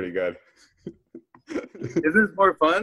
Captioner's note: laughs